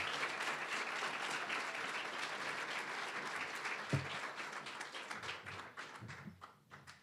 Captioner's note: applause, cheering; applause